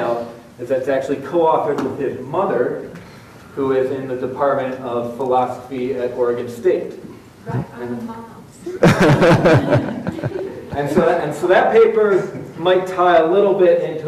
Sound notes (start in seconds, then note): 8.8 audience laughs